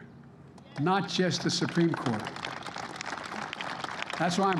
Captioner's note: applause